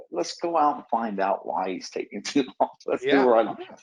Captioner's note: chuckles